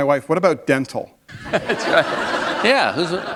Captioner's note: laughter